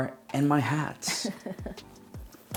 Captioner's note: laughs; both laugh